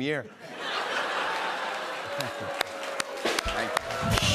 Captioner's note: laughter